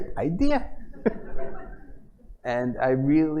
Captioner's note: laughter